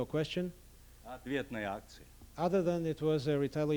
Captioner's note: non-english speech